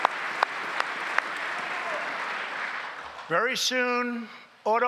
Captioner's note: applause